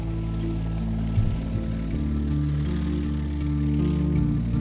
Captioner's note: plane whirring